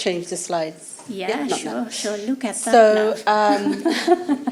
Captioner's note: laughter; laughter